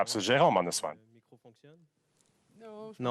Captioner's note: speaking French